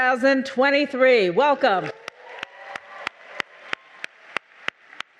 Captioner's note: clapping; audience cheering